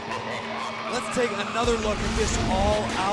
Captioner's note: evil laughter